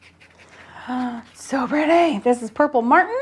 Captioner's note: gasps